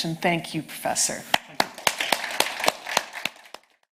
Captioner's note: audience applauding